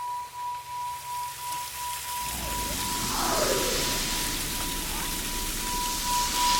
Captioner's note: waterfall running